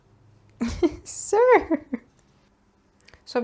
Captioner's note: giggles